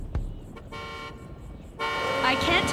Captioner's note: Cadillac horn honking